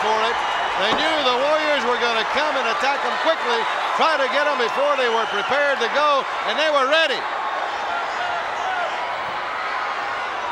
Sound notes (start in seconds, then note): 7.4 crowd shout